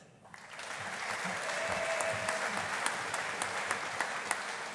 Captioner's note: audience applauding